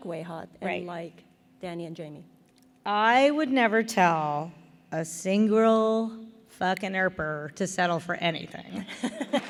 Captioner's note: applause